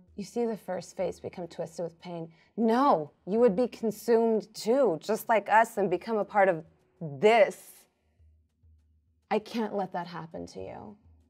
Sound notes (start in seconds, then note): none